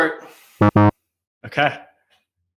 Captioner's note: buzzer buzzing